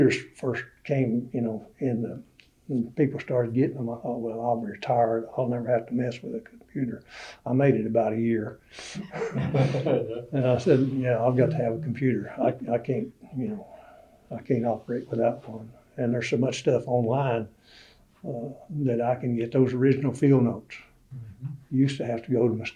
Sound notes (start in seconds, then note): 9.0 laughter